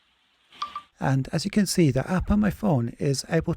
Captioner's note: phone beeps